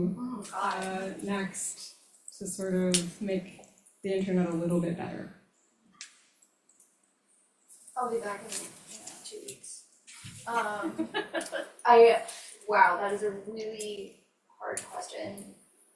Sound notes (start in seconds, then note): 10.4 crowd members chuckling